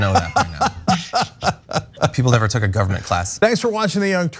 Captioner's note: laugh